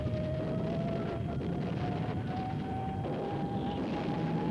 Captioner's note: bombs blasting